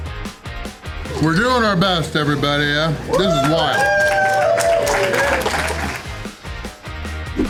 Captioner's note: crowd applause